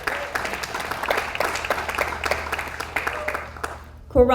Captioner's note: audience applauds